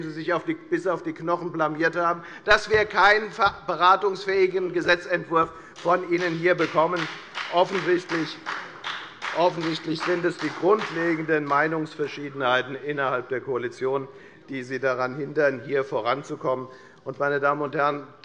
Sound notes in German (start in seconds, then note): 7.2 Beifall bei der FDP